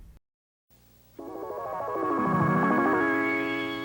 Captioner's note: chimes